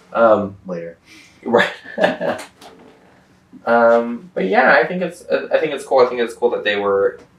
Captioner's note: laughs